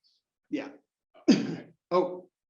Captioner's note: cough